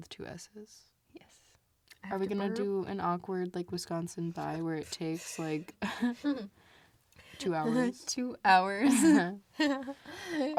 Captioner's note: laughs